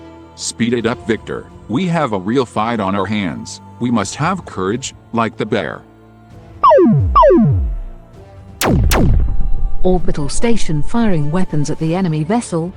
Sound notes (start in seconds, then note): 6.6 zap; 8.6 boom